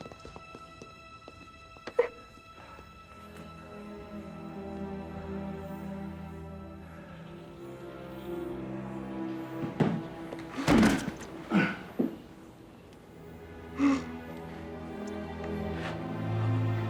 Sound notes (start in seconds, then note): 1.5 Maggie crying